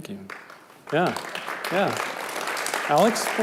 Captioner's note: clapping